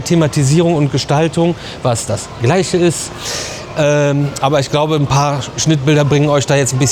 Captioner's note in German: schnauben